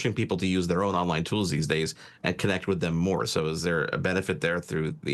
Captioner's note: none